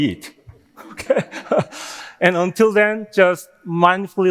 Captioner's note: laughing